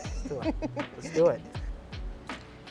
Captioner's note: giggles; mellow music